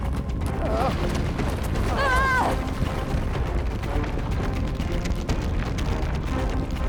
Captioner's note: Larry groaning; Paige grunting